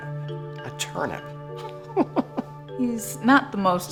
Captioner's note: laughs